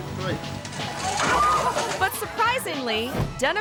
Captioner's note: wood clatters; people shout